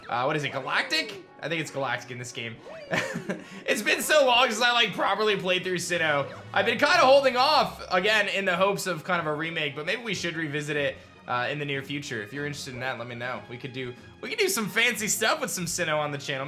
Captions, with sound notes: What is it, Galactic? I think it's Galactic in this game. (laughs) It's been so long since I like properly played through Sinnoh. I've been kind of holding off. Again, in the hopes of kind of a remake but maybe we should revisit it in the near future. If you're interested in that, let me know. We could do, we could do some fancy stuff with some Sinnoh in the channel.